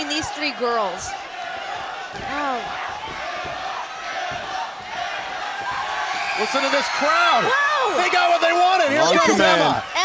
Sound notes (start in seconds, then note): 0.0 crowd cheering